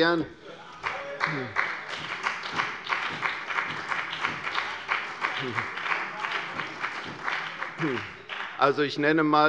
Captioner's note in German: Heiterkeit und Beifall bei der CDU und dem BÜNDNIS 90/DIE GRÜNEN